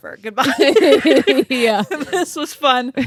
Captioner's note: both laughing